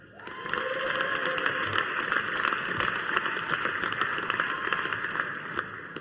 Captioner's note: audience applauding